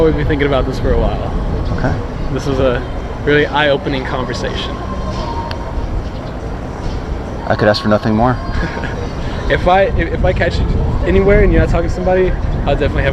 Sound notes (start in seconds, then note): 8.3 laughs